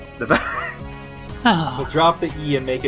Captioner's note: sighs